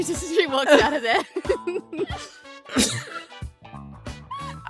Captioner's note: EVERYONE giggles